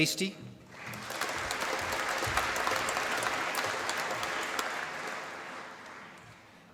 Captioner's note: applause